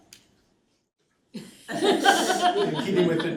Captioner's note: laughter